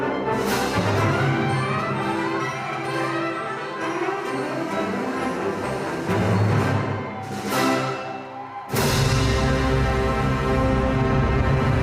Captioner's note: music and applause